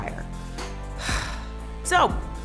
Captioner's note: heavy sigh